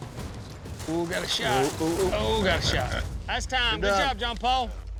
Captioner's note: hoofbeats